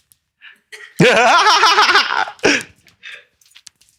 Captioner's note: boy laughs